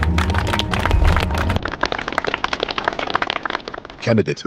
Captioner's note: instructors applauding